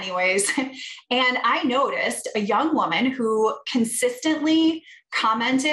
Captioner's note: laughter